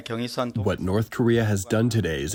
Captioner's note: through translator